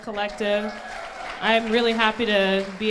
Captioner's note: crowd applauds